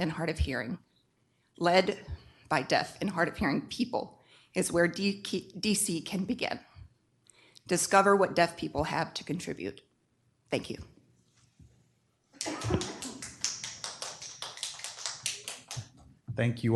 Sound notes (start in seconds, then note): 12.4 deaf Community in Audience: Applause